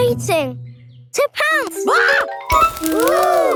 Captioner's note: screams